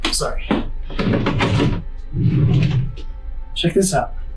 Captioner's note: drawers sliding